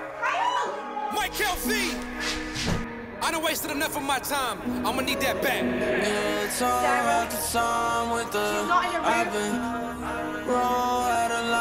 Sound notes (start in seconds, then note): 0.0 trap music plays; 1.0 Laura shouts to Kyle as she runs down the stairs